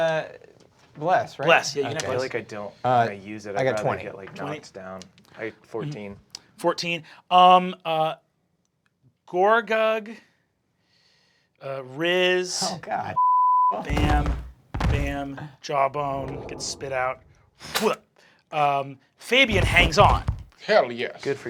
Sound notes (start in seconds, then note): 13.5 beeping; 16.8 imitating spitting